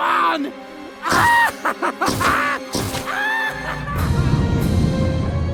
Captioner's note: laughs maniacally